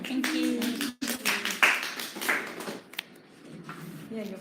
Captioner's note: applause